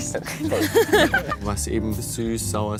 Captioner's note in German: lacht